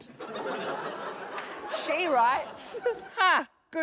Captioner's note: laughter; giggles